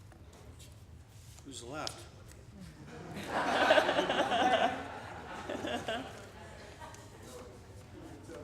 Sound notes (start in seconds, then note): 2.8 laughing